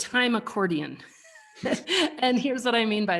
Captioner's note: chuckle